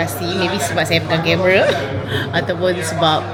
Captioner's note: laugh